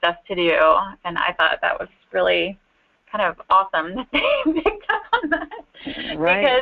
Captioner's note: laughter